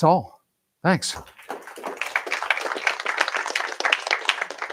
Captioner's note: applause